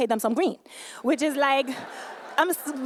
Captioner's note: laughter